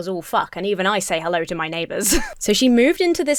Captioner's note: chuckles